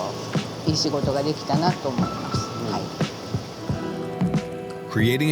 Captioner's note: continues speaking Japanese